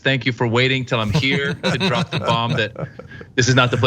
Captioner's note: laugh